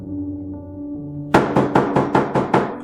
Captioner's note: loud knocking